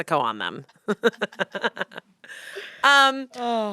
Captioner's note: laughter